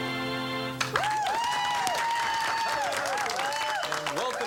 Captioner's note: audience applauds, cheers